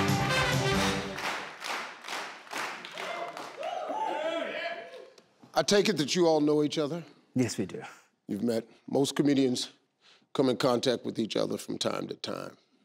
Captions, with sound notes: (crowd clapping) I take it that you all know each other. - Yes, we do. - You've met. Most comedians come in contact with each other from time to time.